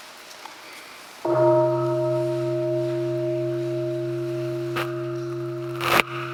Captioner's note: bell ringing